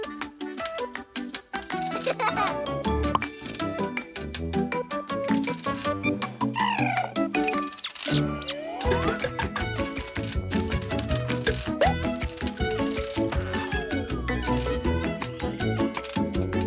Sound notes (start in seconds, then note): 1.9 giggles; 6.0 chirping